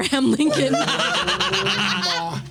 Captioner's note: laughing